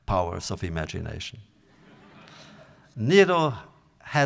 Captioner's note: audience laughter